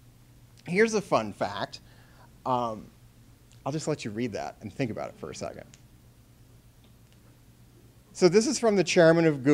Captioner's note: silence